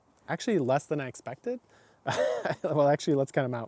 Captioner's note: laughing